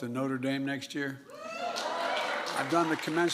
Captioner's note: applause